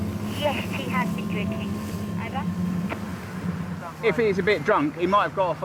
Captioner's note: voice On Radio